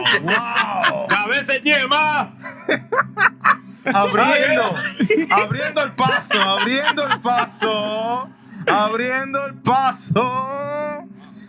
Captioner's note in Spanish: Hablando español